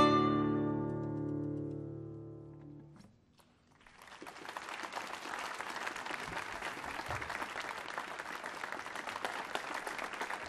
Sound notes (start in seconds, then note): 3.6 applause